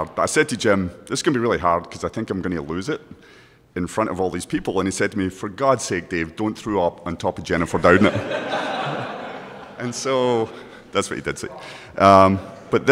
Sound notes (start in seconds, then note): 7.9 all laugh